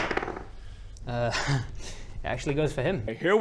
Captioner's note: laughs